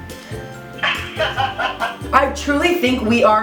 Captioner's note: laughs